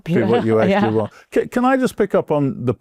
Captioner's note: laughs